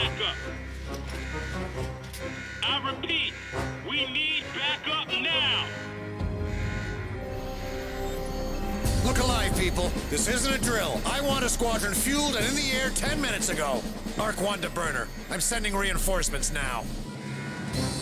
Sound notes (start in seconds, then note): 2.5 alarm buzzes